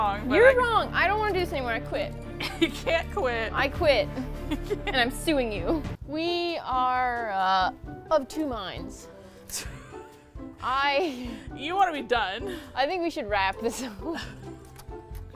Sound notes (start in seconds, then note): 4.1 laughs; 9.6 both laugh; 13.5 laughs